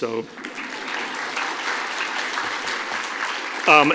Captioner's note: applause